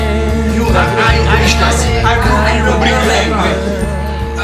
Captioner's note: pretending to speak English